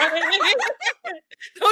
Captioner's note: laughing